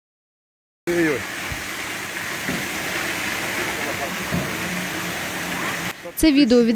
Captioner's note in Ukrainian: шум води